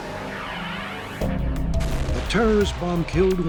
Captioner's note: bomb blast